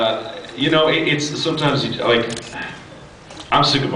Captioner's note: sighs